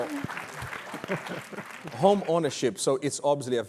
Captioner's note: laughter; applause